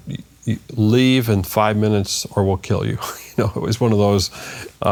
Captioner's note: laughs